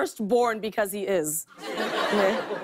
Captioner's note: laughter